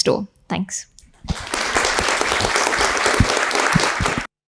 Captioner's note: audience applauding